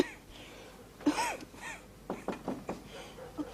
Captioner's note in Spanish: Toses; Golpes en la puerta